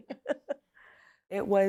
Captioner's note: laughter